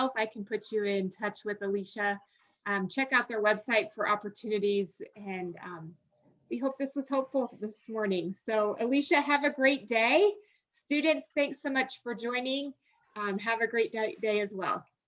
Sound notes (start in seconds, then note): none